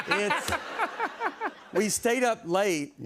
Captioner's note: laughs